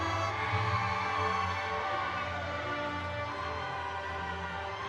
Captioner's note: audience cheering